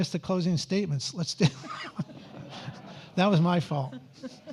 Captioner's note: audience laughs